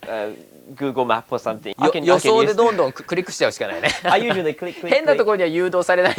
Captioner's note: laughs